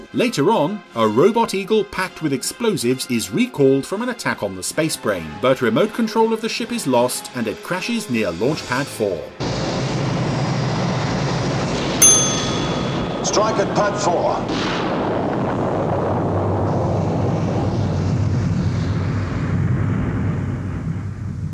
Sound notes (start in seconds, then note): 9.5 loud explosion; 12.0 bell dings; 14.6 air whooshing